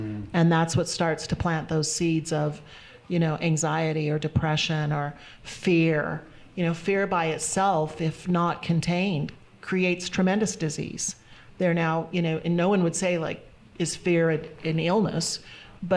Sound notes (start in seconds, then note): none